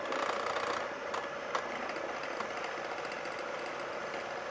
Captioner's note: mixer whirring